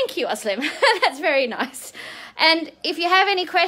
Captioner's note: laughing